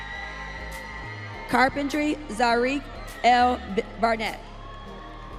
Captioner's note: audience cheering